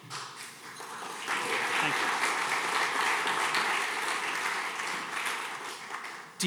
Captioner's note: audience clapping